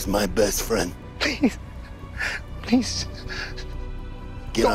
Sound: whimpering

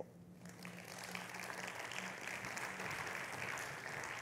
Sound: audience applauding

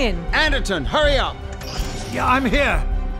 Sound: cockpit door opens

